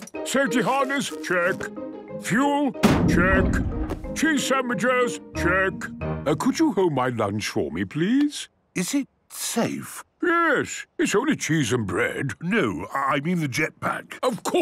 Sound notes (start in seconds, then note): 2.8 bangs